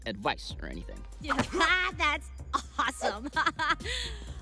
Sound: laughs

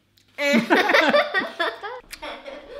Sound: laughter

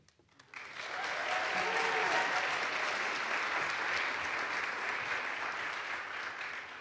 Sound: audience applauds; audience cheers

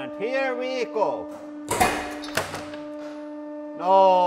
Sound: hydraulic press humms; loud POP-PING followed by a thud from off camera

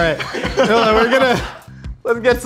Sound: laughs

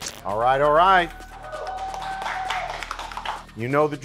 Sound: contestants clapping

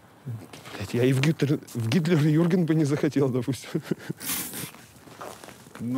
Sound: laughs

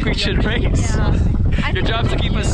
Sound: speaking foreign language

